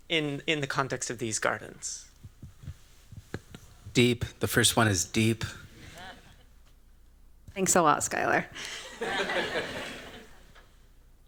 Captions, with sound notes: in the context of these gardens? Deep. The first one is deep. Thanks a lot, Skyler. [LAUGHTER]